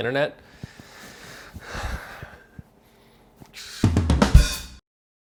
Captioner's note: breathes deeply; jazz music